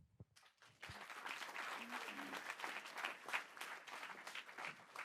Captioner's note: audience applauding